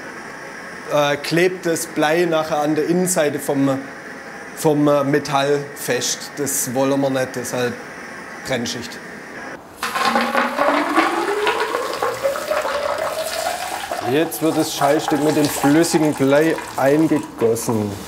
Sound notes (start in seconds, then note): 9.7 bubbling